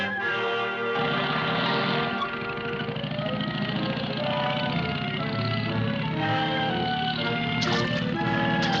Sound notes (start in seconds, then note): 0.0 engine rumbling